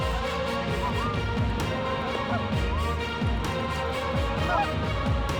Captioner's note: goose calls